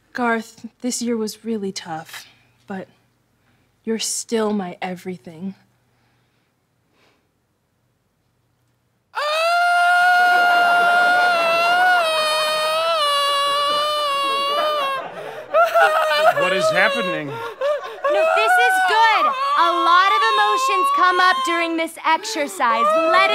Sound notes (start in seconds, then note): 9.3 screaming; 15.8 sobbing